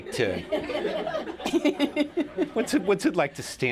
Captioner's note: laughter